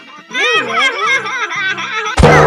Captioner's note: laughing